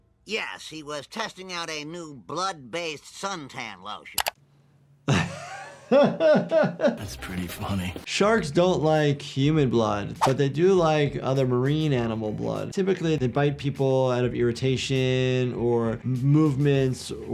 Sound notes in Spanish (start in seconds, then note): 5.1 riendo